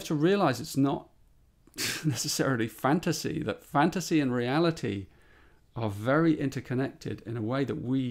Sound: laughs

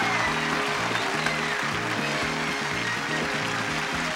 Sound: audience cheering

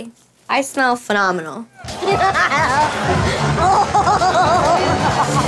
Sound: Jenni laughing

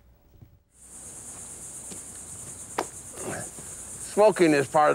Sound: outside ambience

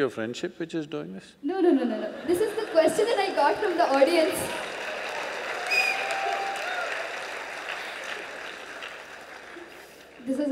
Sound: audience Cheers

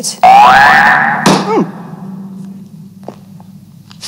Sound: alarm rings

